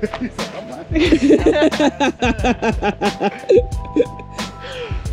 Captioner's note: laughter